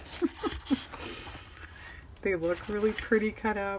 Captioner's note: laughs